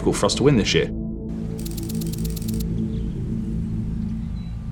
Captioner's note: birds chirping